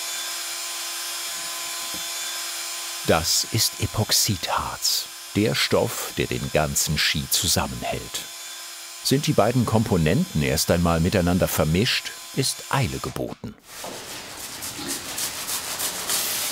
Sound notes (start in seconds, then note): 14.0 grinding noise